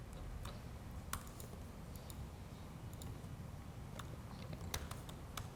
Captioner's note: keyboard clicking